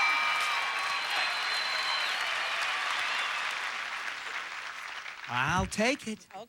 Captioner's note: audience applauding